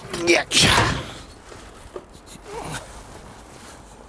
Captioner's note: grunts